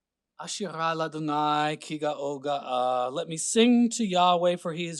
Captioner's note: speaking Hebrew